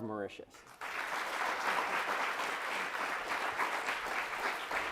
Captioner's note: audience applauds